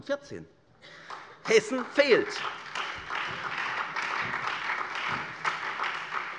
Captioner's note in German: Beifall SPD und Freie Demokraten